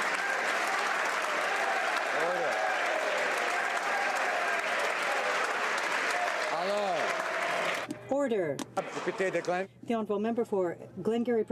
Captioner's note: applause